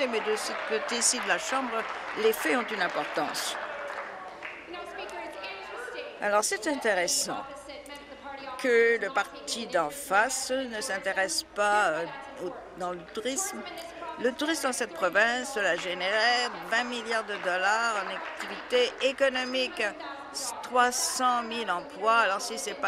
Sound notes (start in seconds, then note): 4.4 applause